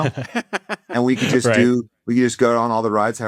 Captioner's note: laughs